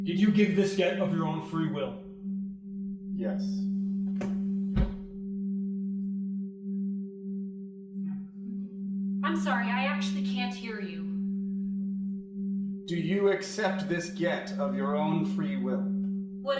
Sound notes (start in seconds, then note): none